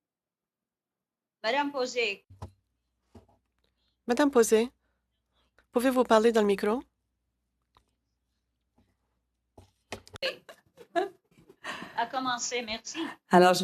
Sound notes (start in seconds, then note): 11.7 speaking french